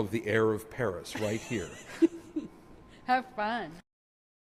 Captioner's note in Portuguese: risos